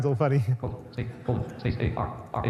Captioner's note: audience laughs